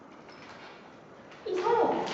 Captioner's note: keys in the door